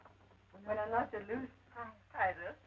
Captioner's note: Esperanza speaks Spanish